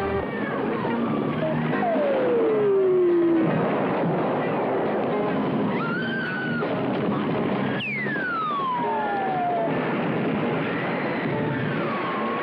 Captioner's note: screaming